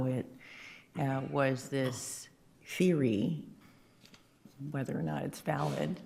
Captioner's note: attendee coughing